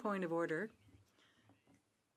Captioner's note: speaking French